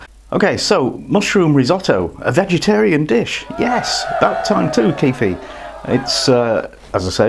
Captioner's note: spontaneous cheering!!